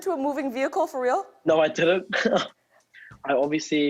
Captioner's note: chuckles